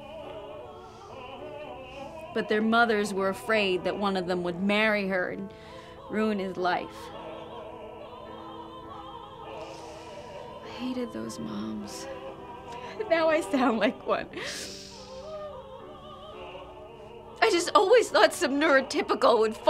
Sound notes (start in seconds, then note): 12.8 crying